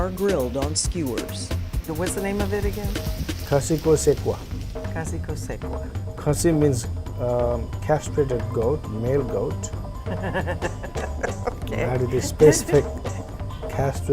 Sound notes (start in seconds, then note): 10.0 ^laughter^